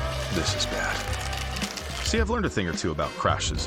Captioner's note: shell cracking